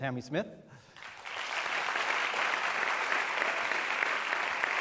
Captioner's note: applause